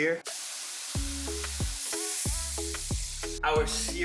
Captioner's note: searing Sound